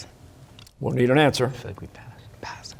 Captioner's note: whispering